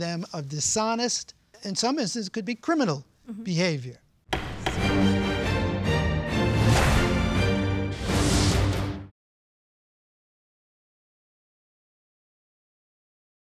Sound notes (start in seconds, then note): 4.3 gavel knocking; 4.3 intense music